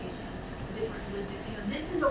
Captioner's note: speaking away from mic